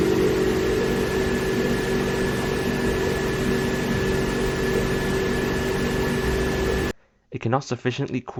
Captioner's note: maximum fan noise